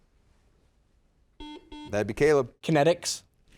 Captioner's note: buzzer dings